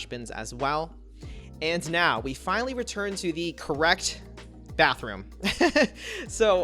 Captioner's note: laughs